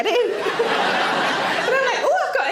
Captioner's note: audience laughs